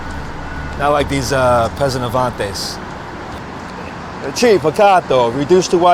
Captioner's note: speaks foreign language